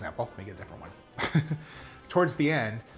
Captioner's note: laughs